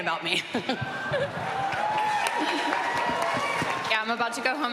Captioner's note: cheering and applause